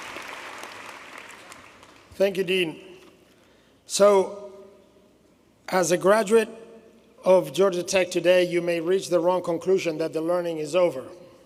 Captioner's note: applause